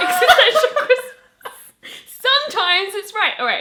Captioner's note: laughing